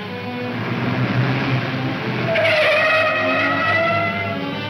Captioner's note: tires screeching